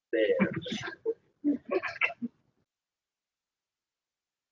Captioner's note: laughter